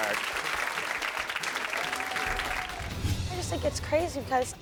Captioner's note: audience cheering